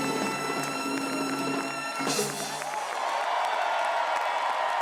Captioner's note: Aclamaciones y aplausos